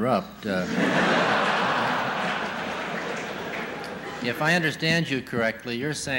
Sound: laughter

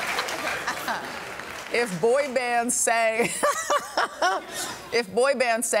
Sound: laughter

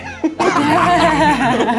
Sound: laughs

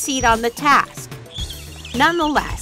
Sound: dolphin squealing

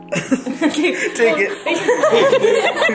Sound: giggles; everyone laughs; laughs

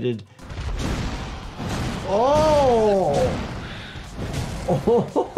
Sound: slamming

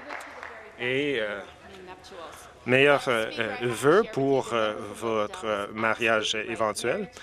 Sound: some Applause

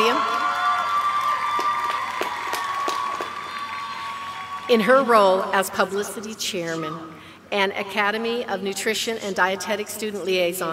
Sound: applause

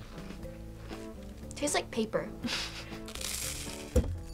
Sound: chuckles

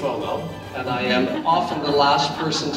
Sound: audience laughs

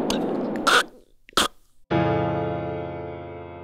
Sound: swallowing and choking; intense piano chord

